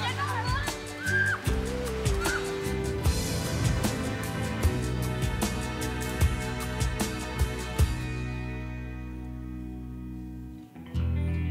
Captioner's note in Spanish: gritos